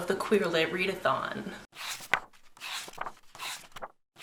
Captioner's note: pages turning